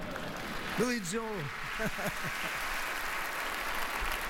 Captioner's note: applause; chuckles